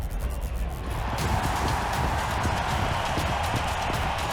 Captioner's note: crowd cheering